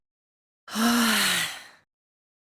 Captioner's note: silence; weary sigh